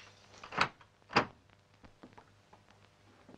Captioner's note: door opens